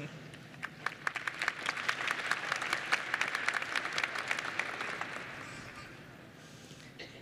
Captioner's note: applause